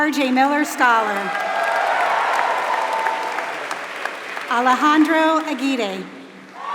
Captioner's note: applause